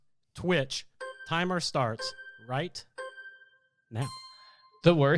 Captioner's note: melodic timer